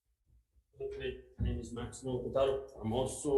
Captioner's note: speaks faintly